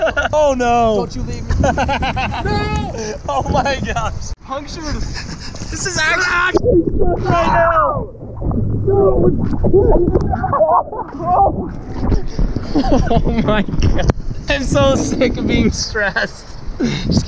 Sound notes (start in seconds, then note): 1.5 laughs; 7.7 splashing